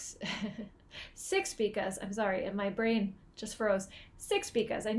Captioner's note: chuckling